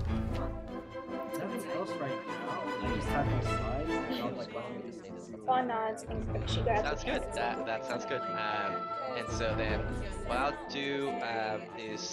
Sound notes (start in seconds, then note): 0.3 upbeat music; 1.6 multiple voices chatting